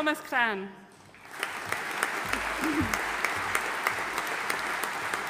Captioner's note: audience applauding